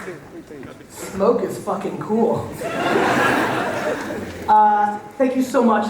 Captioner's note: audience laughter